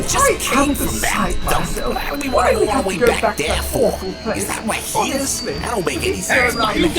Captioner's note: Vortex and Swindle complain loudly